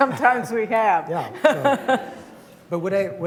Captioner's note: laughter